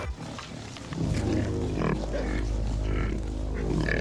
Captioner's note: pigs snorting